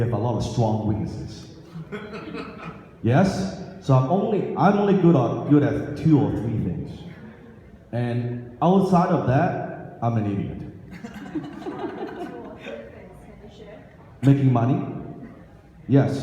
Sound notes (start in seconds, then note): 1.8 man laughs; 10.9 audience laughs